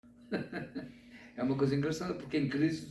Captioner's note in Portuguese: Risos